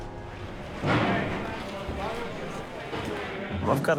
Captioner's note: chattering